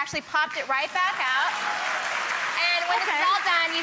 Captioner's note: applause